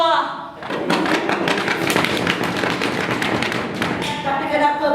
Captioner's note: lackluster applause